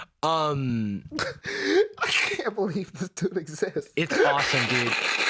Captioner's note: laughing